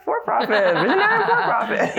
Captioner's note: laughter